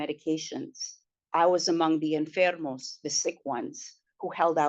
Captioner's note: spanish